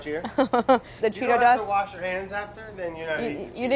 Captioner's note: laughter